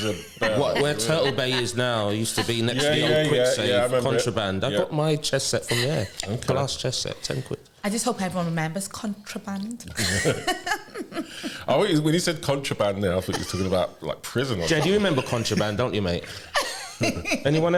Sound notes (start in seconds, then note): 10.0 laughter